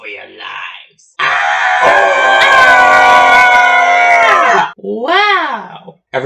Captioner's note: all screaming